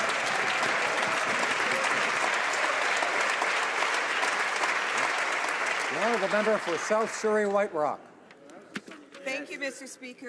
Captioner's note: some Applause